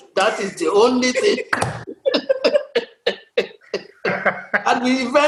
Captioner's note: laughter